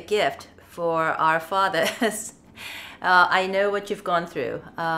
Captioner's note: chuckles